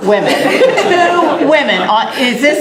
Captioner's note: laughter